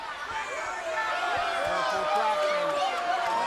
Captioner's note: crowd boos